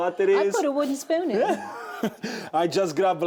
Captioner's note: laughs